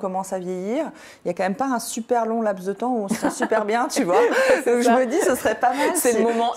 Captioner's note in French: rires